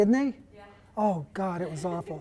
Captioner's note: voiceover